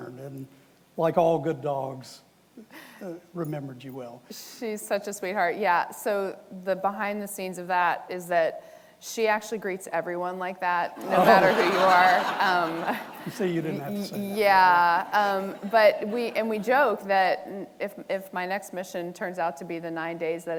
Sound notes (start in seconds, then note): 11.0 audience laughing